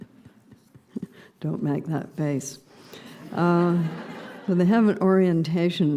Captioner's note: laughter